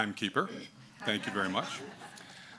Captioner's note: audience laughs